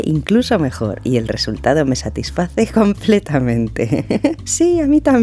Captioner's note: giggle